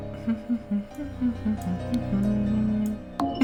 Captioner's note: hums